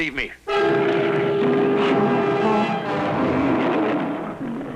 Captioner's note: lion growling